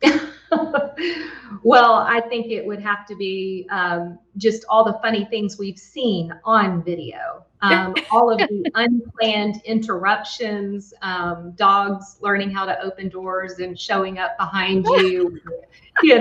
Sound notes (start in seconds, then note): 0.2 laughs; 7.7 laughs; 14.8 laughs